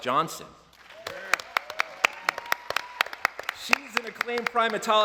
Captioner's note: applause